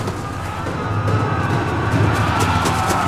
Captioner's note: all yelling